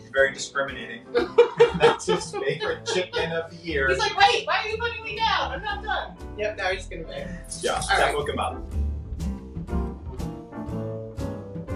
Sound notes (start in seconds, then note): 1.1 both laughing; 8.8 moderate music